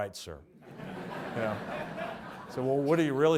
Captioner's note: audience laughs